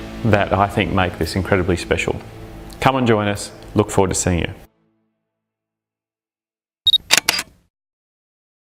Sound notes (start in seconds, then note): 5.4 uplifting music; 6.9 camera clicking